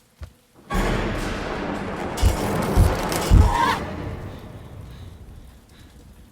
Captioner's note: door slamming; intense music; glass crunching